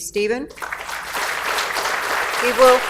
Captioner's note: audience applauds